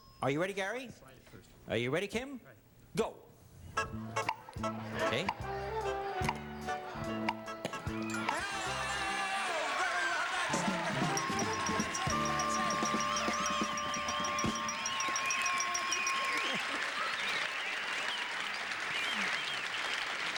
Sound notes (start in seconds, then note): 8.0 Monty shouting; 8.0 bell dinging